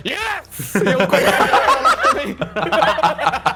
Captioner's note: everyone laughs